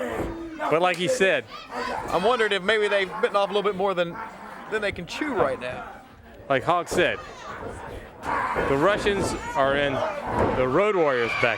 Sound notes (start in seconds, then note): 6.1 crowd cheering